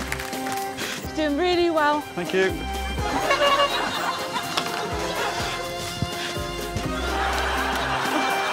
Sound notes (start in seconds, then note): 3.0 air horn honking